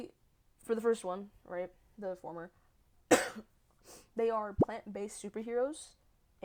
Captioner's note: cough